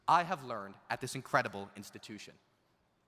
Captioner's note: none